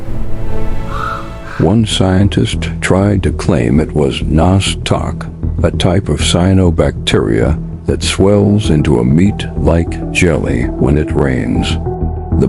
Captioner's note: sarcastic Commentary